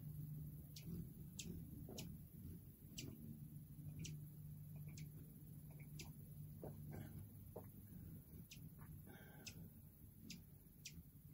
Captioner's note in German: Vogelgezwitscher